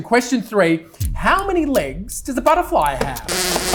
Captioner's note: bzzz